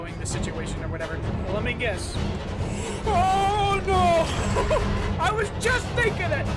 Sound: gasp again

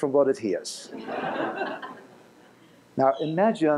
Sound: laughter

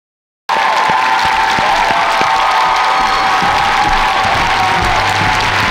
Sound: audience cheers and applauds

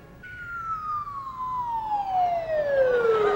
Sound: whistles

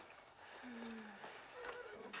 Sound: sighs

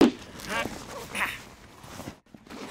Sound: grunts

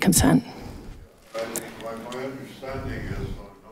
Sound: man speaking off screen

